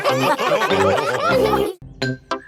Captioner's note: all laughing